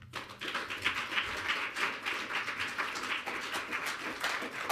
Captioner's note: audience clapping